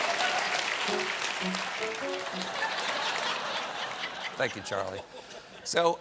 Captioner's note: laughter